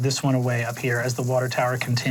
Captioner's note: water running